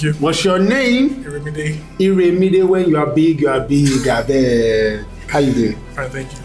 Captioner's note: chuckles